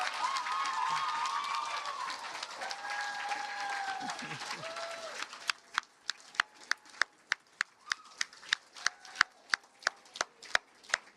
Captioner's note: cheers and Applause